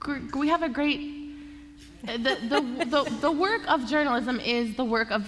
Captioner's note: laughter